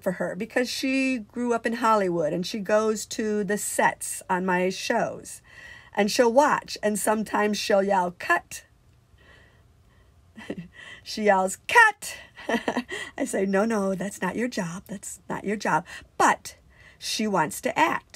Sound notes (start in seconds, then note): 12.3 laughs